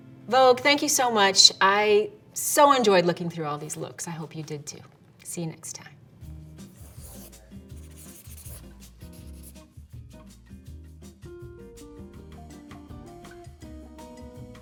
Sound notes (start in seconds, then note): 6.8 bright music; 7.7 pen scratching